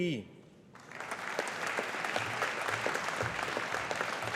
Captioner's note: audience applauding